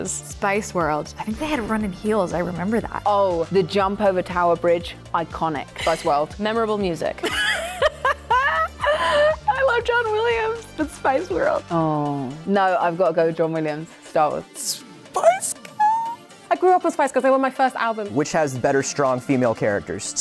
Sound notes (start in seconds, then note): 7.2 laughter